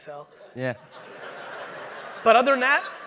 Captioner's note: audience laughing